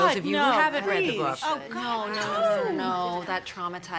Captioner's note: women protesting